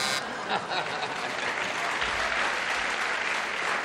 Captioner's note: buzzer; applause